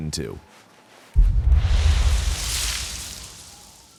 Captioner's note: geyser exploding